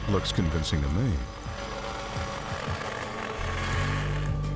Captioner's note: saw buzzing